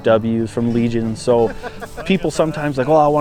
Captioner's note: hunter laughing